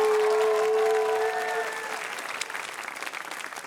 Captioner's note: applause; cheering